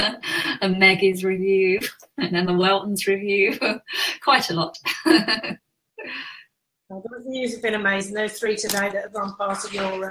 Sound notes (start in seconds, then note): 5.8 laughs